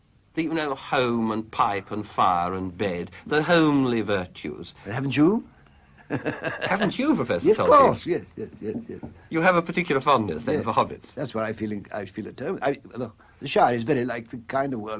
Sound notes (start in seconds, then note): 5.6 laughs